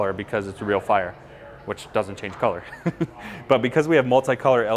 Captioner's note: laughs